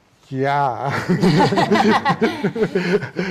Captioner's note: laughing